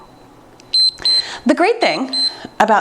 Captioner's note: timer beeps